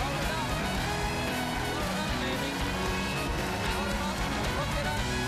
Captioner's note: band playing; cheers and applause